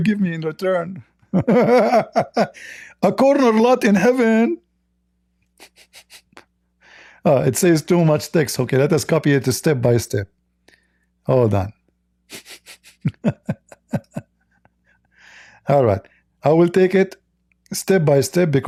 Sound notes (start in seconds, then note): 12.3 Ketawa